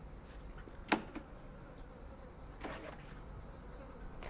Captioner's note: clicking